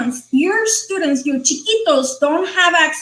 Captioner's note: speaking foreign language